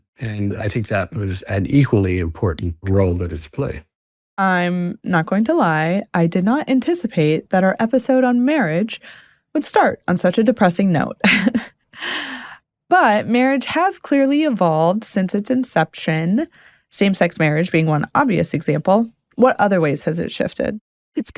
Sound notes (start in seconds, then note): 11.3 laughs